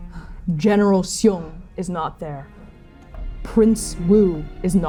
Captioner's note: shallow breathing; shallow breathing